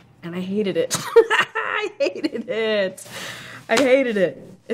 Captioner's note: laughs